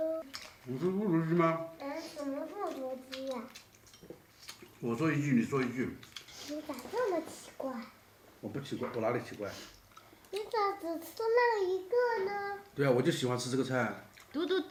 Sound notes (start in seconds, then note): 0.0 they chat